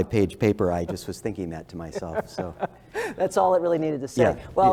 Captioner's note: laugh